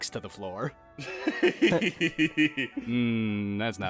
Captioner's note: giggling